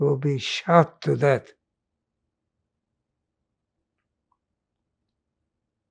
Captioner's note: pauses 6 seconds